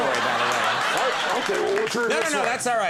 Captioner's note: audience laughs